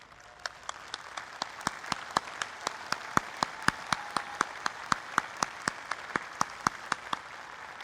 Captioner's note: applause